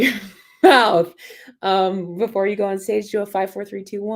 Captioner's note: laughter